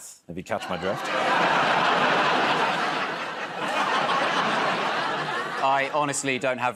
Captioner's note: laughter